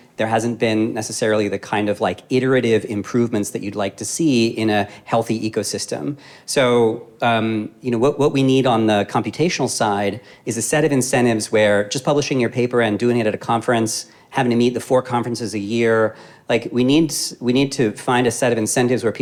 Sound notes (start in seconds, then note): none